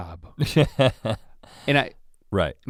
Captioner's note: chuckles